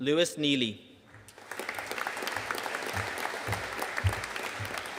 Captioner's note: audience applauding